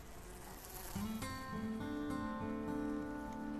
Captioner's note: fly buzzing